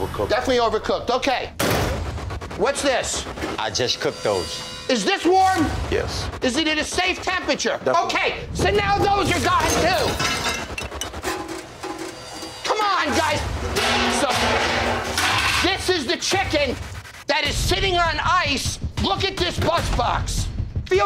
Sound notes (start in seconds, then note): 13.9 pots clanging